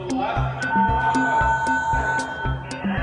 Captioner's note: siren sounds